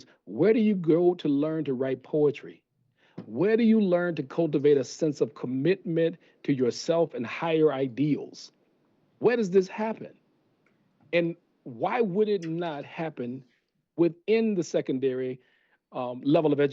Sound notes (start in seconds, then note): none